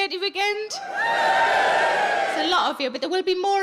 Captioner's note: audience cheers